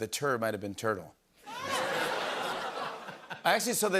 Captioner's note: laughter